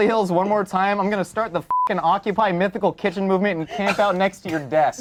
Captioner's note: beep